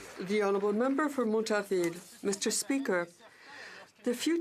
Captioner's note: some Applause